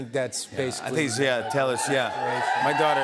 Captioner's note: crowd cheers